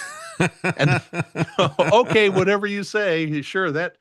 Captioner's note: laughing